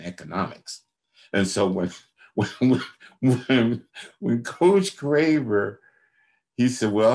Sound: laughs

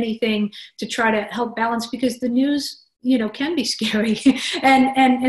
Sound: laugh

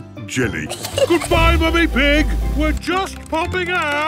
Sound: giggles

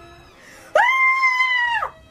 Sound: scream

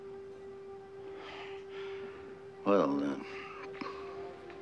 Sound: sighing

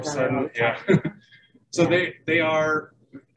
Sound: laughing

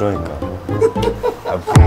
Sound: laughing

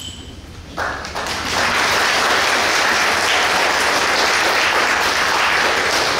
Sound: clapping

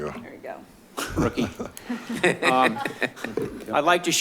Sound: chuckling

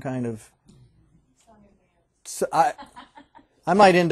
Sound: student, laughing

